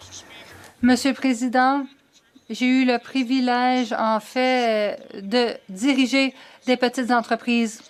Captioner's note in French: voix de l'interprète